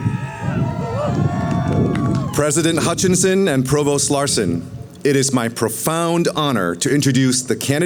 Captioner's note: cheering